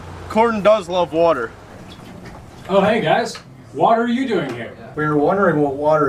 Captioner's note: water